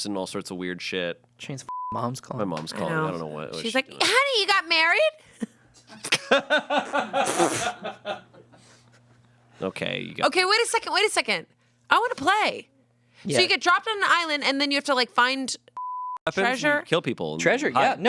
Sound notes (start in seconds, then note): 1.8 beep; 6.2 everyone laughs; 15.8 beep